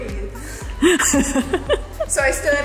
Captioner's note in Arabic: يضحك